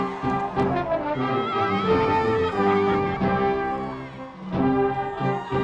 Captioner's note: shouting in excitement